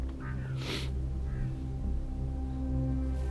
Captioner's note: crow cawing